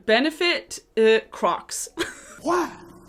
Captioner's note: laughs